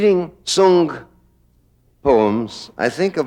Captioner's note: voiceover